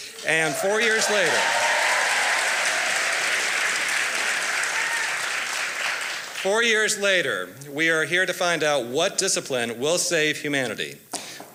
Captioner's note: applause